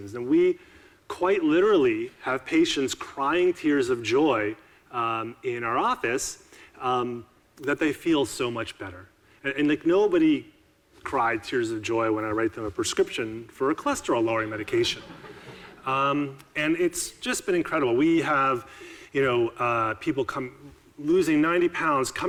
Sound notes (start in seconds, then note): 14.9 audiences laughing